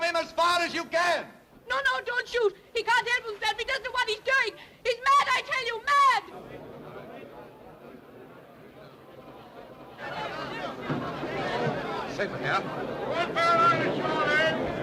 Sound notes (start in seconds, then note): none